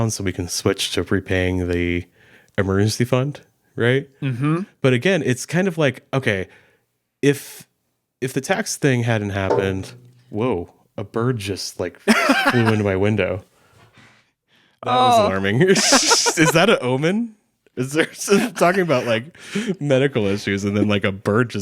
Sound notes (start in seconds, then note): 9.5 bird thuddding; 12.0 laughing